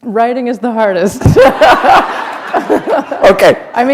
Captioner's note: laughter